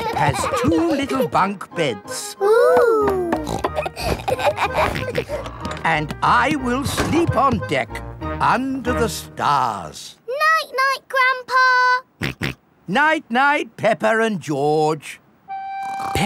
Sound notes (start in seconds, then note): 0.0 kids giggling; 3.3 snorts, laughs; 12.3 snorts